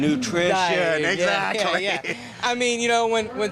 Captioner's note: laughs